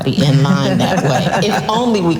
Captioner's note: laughs loudly